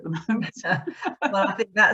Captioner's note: both laughs